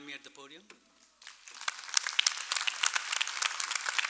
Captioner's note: clapping